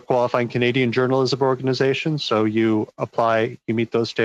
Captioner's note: speaking French